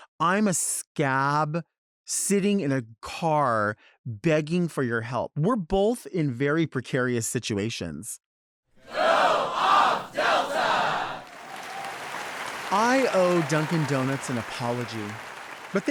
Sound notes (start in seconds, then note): 8.8 crowd